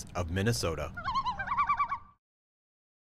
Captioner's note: birds squawking